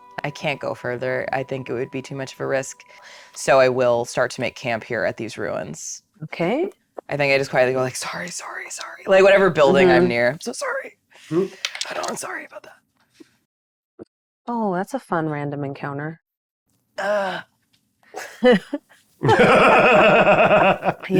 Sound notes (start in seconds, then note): 11.6 dice rattling; 16.9 players laughing; 17.0 grunting